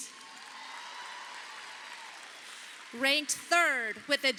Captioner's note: audience applauding